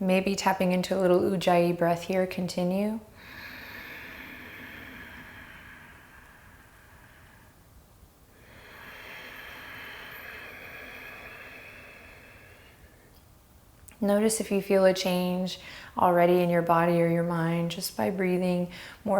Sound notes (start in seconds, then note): 3.1 breathes deeply